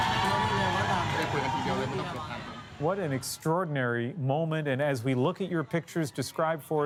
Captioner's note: cheers and Applause